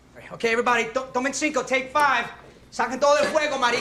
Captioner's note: speaks Spanish; chef speaking Spanish